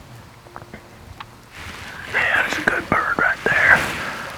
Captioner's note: whispering